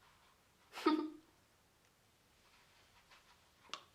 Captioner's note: chuckles